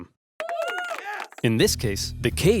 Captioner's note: cheers